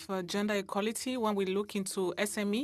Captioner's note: speaking French